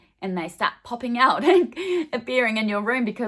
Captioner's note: laughing